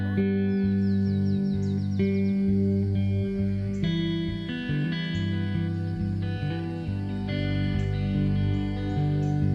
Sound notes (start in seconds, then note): 0.1 peaceful music; 1.7 birds chirping